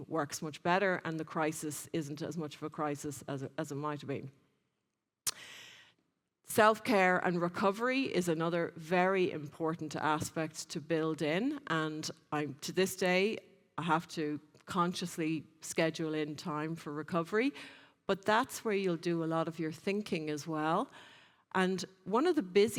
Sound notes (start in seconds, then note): 5.2 lips smack